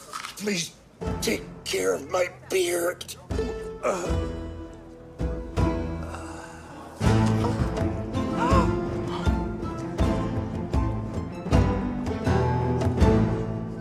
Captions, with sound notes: Please take care of my beard. (grunts) (exhales) - Oh. (gasping)